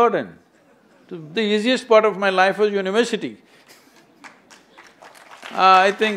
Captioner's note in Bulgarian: смее се; аплодисменти